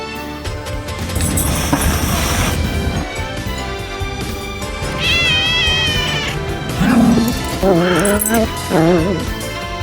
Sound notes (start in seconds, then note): 1.0 Caprice hisses; 4.8 Caprice meows; 4.8 Ella growls